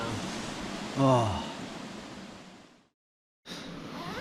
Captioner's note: sighs